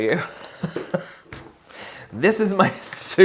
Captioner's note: laughs